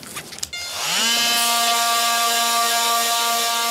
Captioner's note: loud whirring